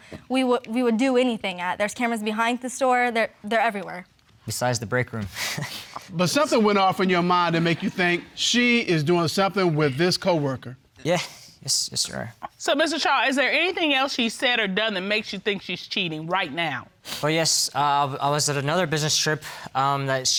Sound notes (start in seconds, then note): 6.1 chuckles